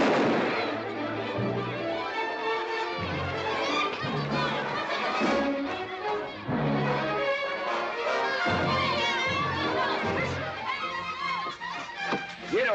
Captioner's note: gunshot; children yelling excitedly